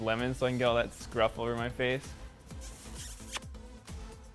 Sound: kiss sound

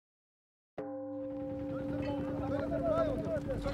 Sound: gong sounds

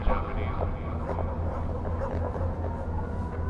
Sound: dog barks; siren wailing

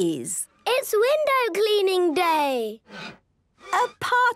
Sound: squeegee squeaking

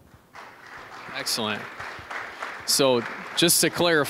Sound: applause

